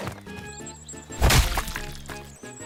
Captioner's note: splat!